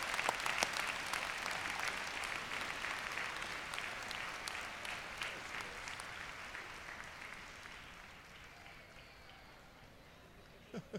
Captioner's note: applause